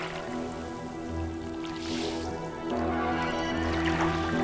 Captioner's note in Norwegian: suset av vann og bakgrunnsmusikk